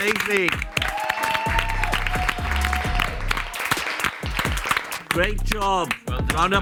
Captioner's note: group applauds and cheers